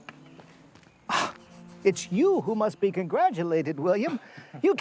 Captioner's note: gasps